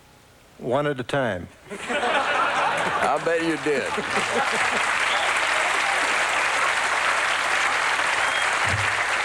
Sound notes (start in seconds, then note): 1.6 laughter; 4.7 applause